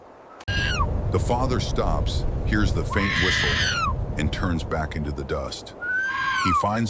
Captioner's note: screaming